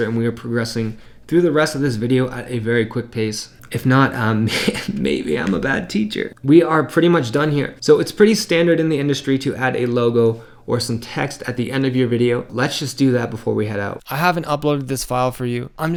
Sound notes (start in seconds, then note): 4.3 laughs